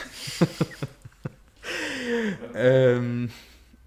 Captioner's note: laughter